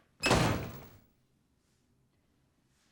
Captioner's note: door slams